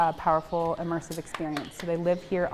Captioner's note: hand slapping